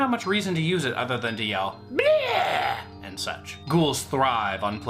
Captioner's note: ghoul noise